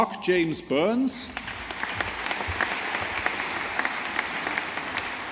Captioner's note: audience applauding